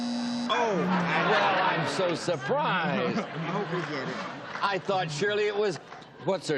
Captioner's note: buzzer